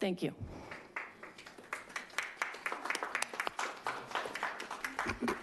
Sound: attendees applauding

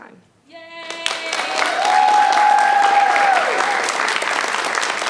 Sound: audience applauding

